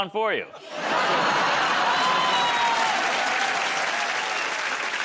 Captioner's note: laughter; cheers and applause